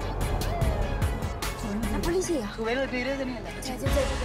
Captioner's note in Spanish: Sonido de sirena